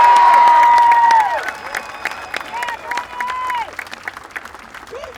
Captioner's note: applause